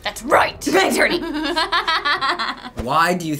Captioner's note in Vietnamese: cười